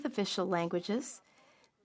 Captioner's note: speaking in French